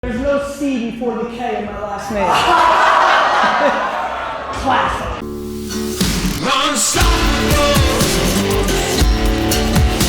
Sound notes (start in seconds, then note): 2.2 audience laughter